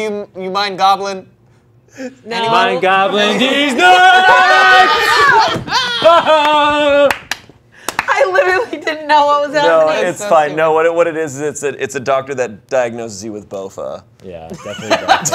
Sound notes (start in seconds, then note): 3.1 group laughing; 6.2 clapping